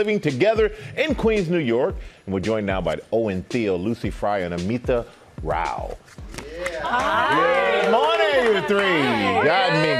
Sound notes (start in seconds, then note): 6.6 applause